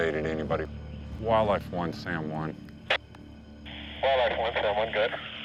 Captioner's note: static buzzing